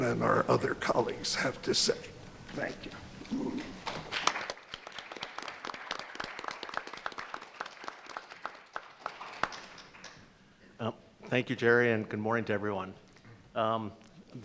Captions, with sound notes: and our other colleagues have to say. Thank you. (everyone applauds) - Thank you Jerry, and good morning to everyone.